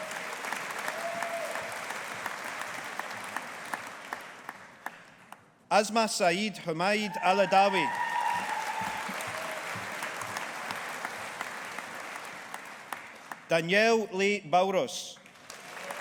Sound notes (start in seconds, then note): 0.0 audience applauding; 6.9 audience applauding